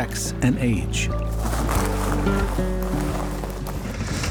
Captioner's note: crashing of bay creatures